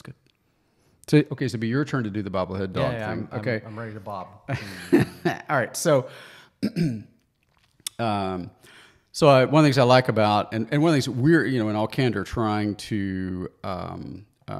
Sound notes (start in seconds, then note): 4.5 laughs